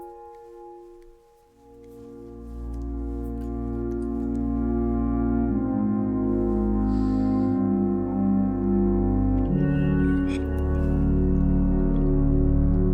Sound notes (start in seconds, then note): 6.6 Ally sniffing